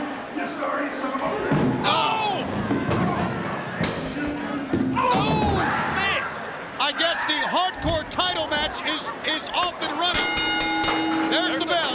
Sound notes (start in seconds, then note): 5.3 screaming; 10.1 bell rings